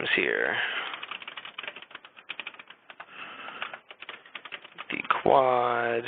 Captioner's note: typing